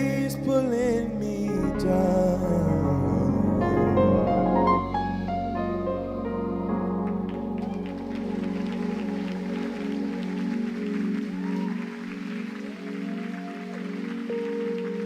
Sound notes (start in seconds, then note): 7.0 audience cheering and applauding